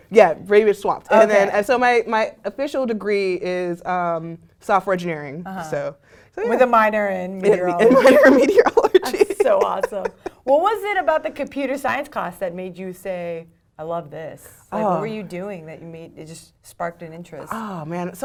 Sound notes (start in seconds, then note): 7.4 laugh